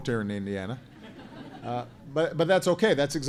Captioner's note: laughter